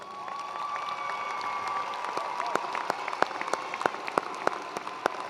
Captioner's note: attendees cheering and applauding